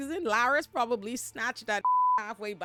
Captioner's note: beep